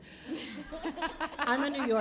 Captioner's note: laughing